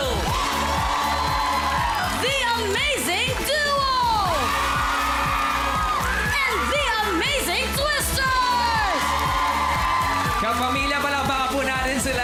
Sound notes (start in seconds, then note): 0.0 cheering continues; 4.2 screaming; 8.4 whooping